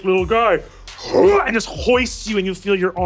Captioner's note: grunts